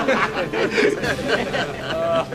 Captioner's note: laughter